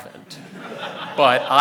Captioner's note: audience laughing